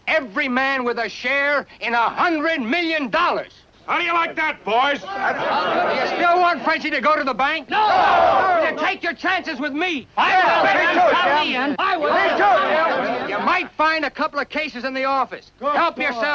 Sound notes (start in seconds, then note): 7.6 crowd; 11.7 crowd yelling excitingly